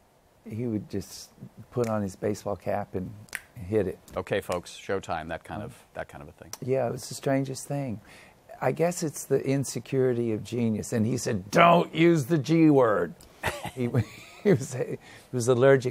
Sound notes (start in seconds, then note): 13.4 laughs